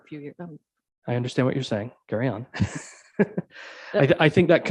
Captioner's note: chuckles